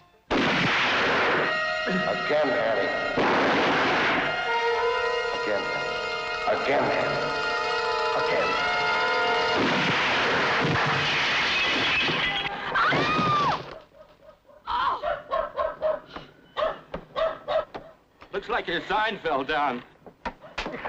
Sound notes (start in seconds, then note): 0.3 gun fires; 3.1 gun fires; 9.5 gun fires; 12.6 screams